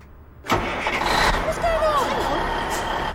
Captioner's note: engine starts